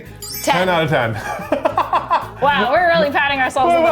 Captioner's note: laughing